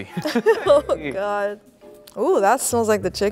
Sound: laughs

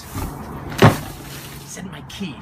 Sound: thump

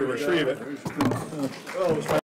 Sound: audience applauding

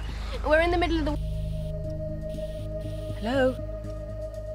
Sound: call cuts out

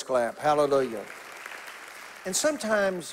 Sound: congregation applauding

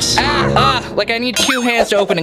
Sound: moaning

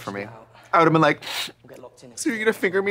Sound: sniffling

